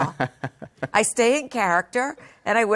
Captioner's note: laugh